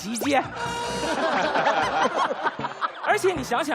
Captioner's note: laughs his head off